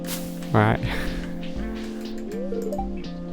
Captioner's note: exhale